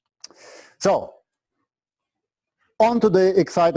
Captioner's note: pause